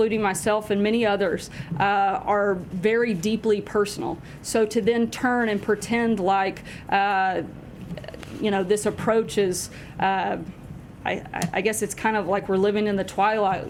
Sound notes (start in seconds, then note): none